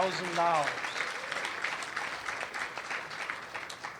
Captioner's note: applause